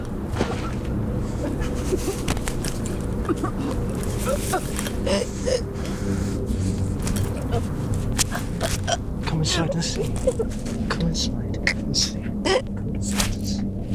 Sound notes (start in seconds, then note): 0.2 Sarah grunting; 0.3 punch smacking; 8.2 Sarah choking